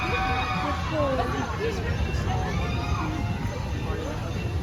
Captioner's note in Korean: 일곱 난쟁이 롤러코스터 비명소리